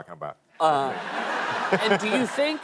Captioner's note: laughter